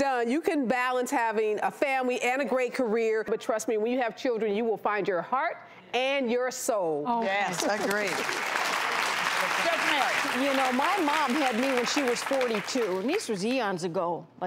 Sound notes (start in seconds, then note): 7.5 audience applauds